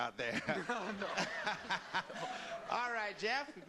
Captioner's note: laughter